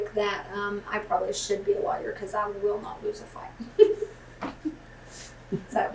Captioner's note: laughter